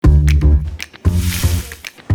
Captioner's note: sizzling